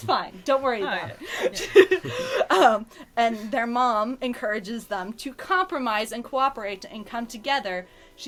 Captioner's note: laughs